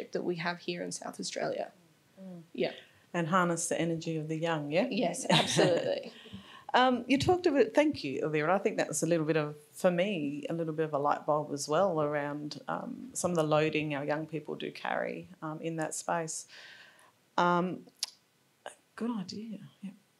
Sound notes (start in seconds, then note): 5.4 laughs